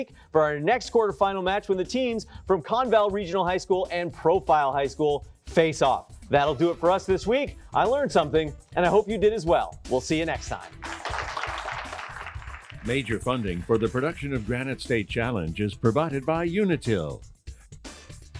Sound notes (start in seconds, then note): 10.7 applause